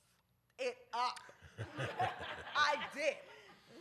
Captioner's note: laughter